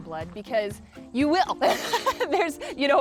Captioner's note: laughs